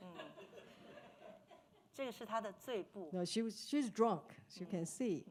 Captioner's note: speaking Mandarin